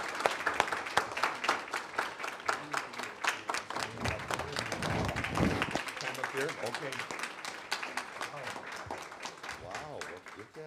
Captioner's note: applause